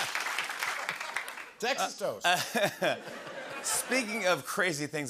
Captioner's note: laughter